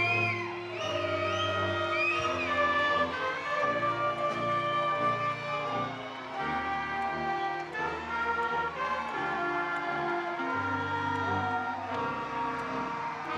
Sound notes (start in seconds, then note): 7.4 attendees cheering; 7.4 triumphant music